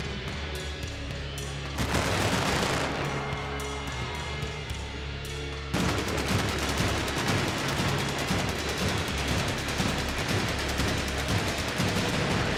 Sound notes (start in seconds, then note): 0.1 upbeat rock music continues; 1.8 fireworks popping; 4.3 upbeat rock music continues; 5.8 fireworks popping continues